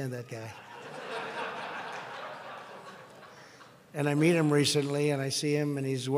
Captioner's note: laughter